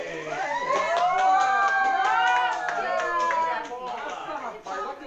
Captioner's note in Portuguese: gritos de empolgação